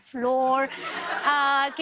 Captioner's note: laughter